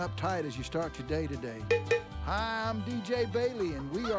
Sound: cow bell

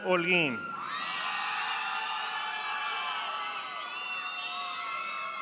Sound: audience applauding

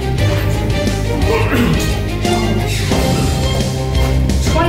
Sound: gags

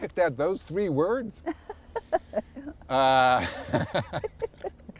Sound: laughter

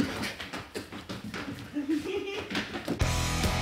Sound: giggles

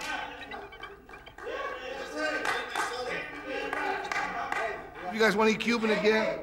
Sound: background chatter

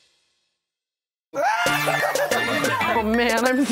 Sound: laughing

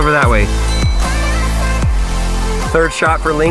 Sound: bell dings

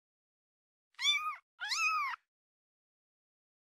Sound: meow Meow

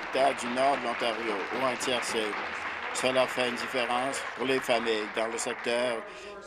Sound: applause

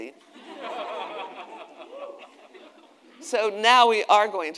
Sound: attendees laughing

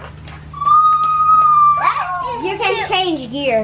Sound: screams

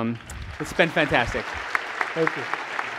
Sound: applause

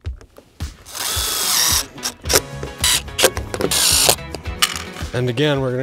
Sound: lively music; drill buzzing

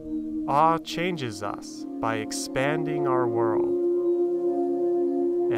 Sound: voiceover

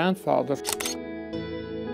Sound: slow music; camera shutter snap

